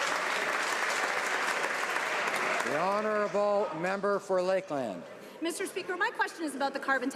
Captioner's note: some Applause